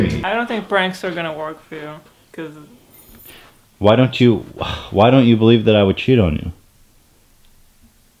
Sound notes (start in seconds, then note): 4.5 sigh